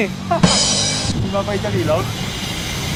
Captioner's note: laughs